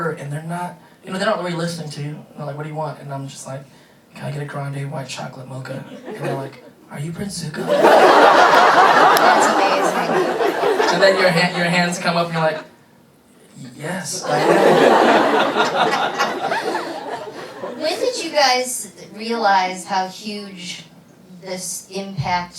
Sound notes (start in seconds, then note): 7.6 laughter; 14.2 laughing